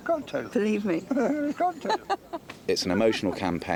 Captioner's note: laughs